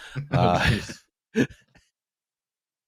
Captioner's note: chuckles